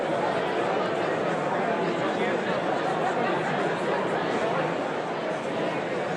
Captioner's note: audience continues indistinctly chattering